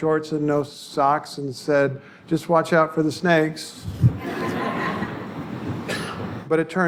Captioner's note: audience laughter